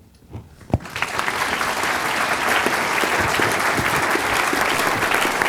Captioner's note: applause